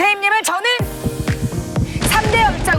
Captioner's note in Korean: 두근 두근